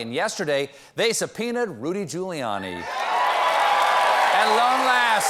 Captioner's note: cheers and applause